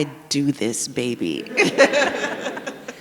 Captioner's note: all laugh